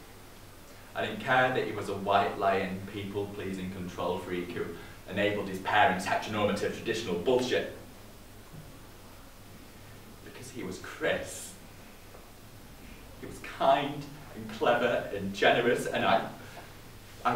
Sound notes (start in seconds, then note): none